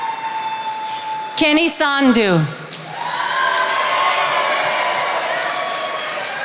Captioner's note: attendees applauding; attendees applauding